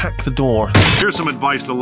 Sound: glass breaks!

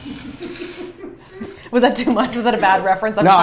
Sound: laughter

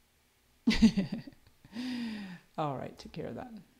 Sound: laughs

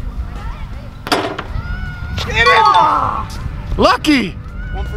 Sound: ding

